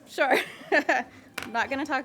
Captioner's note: laughs